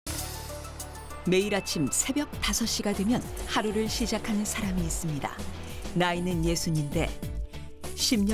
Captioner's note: voiceover